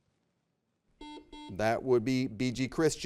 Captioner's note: buzzer beeps